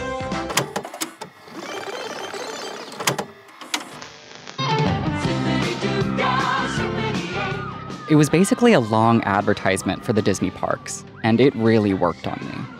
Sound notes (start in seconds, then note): 0.4 VHS clicking